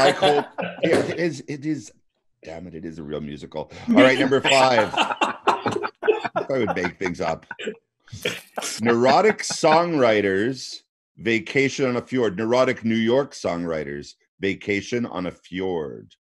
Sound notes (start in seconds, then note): 0.0 laughter; 2.5 beep; 5.6 laughter